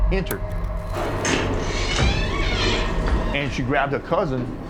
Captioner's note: door clacking and creaking